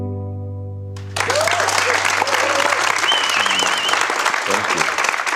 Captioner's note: audience applause